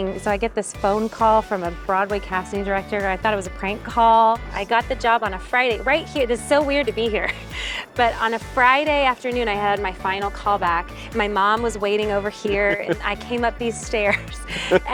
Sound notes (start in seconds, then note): 7.2 chuckles; 14.3 chuckling